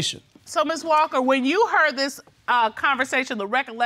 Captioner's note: none